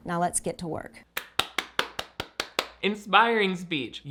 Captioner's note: applauding